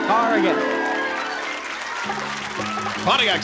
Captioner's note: applause